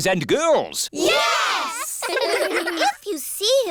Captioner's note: giggling